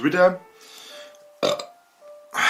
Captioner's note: burps